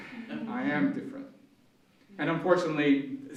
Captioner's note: audience humming in sympathy